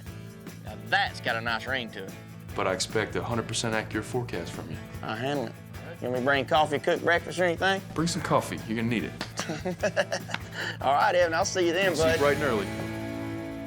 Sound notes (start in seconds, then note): 9.2 laughs